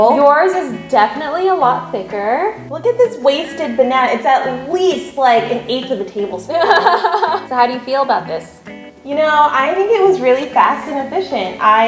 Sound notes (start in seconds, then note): 6.5 laughs